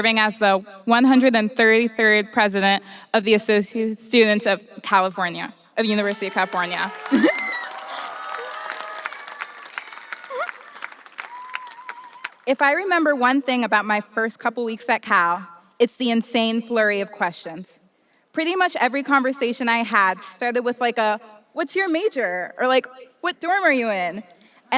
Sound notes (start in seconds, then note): 6.7 audience applauding and cheering; 7.1 chuckles